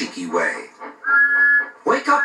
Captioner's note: Thomas' Whistle Blows